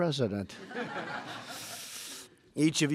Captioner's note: laughter